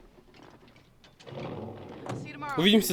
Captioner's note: engine starts